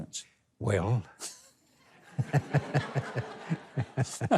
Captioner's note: audience laughing; laughs